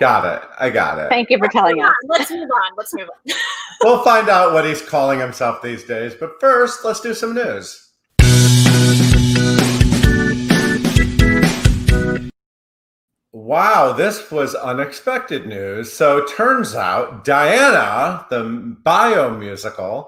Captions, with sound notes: - Got it, I got it. - Thank you for telling us. - Let's move on, let's move on. (laughs) - We'll find out what he's calling himself these days, but first, let's do some news. (funky music) Wow, this was unexpected news. So it turns out "Diana", the bio musical